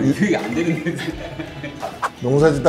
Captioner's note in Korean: 웃음